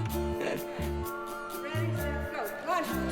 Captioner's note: laughs